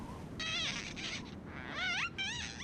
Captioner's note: glass squeaking